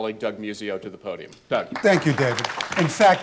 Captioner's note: applause